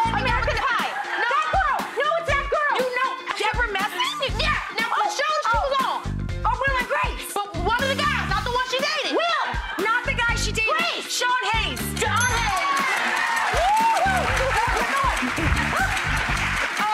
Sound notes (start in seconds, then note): 12.0 bell dings; 12.4 audience applause